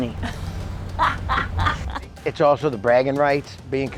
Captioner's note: laughing